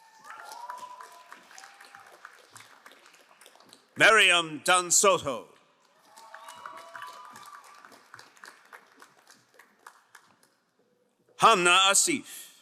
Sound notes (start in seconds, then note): 0.0 crowd applauding; 5.8 crowd cheering and applauding